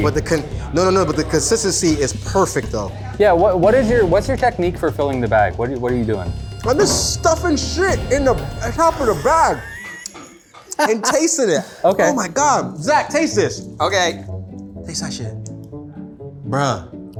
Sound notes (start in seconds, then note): 8.8 laughs